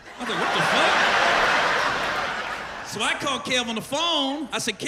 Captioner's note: laughter